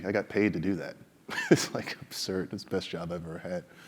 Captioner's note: laugh